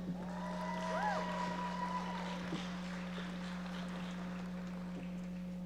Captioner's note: audience members applauding